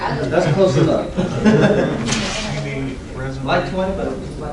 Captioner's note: laughing